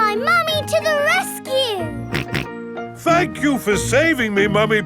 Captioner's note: snorting